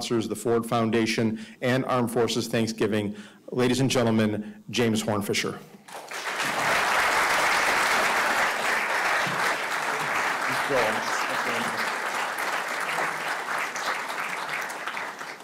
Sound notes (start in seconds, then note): 5.9 audience applauding; 11.6 applause continues